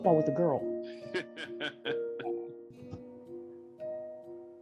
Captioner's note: laughing